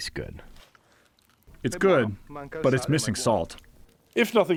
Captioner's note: through translator